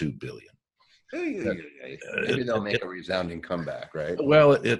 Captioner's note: groans